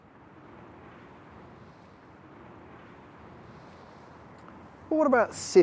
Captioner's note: faint hum of the city